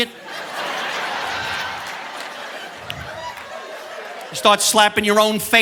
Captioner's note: audience laughing